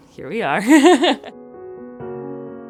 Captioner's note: laughs; gentle upbeat music